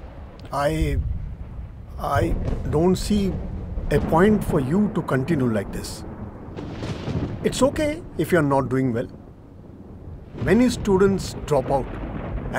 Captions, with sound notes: I don't see a point for you to continue like this. (Thunderclap) It's okay if you're not doing well. Many students drop out.